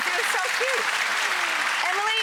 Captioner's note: applause